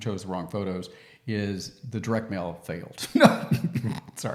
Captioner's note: laughs